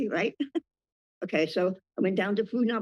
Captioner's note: laughs